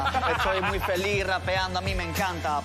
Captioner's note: laughs